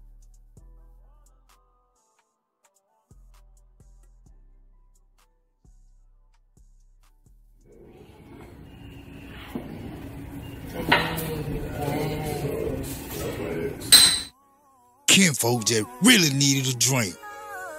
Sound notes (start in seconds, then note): 9.3 footsteps; 13.9 glasses clink together